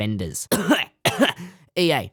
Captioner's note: coughs